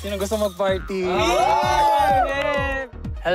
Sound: cheering

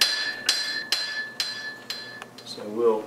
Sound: hammering

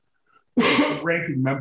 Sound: Tom sneezes

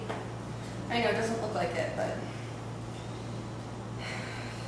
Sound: sighs

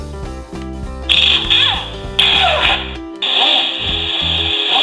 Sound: car repair sounds

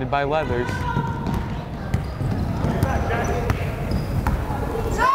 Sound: crowd chattering

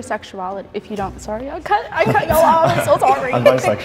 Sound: laughs

